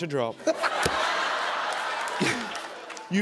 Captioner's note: laughter